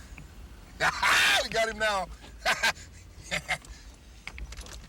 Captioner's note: laughs